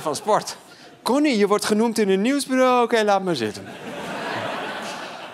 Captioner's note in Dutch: gelach